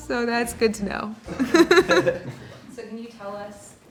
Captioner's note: laughing